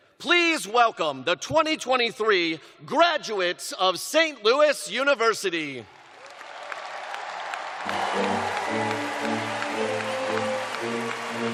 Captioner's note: cheers and applause